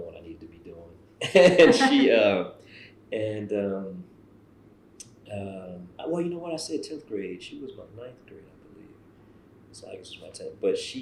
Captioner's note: laughs